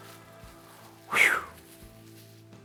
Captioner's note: whistles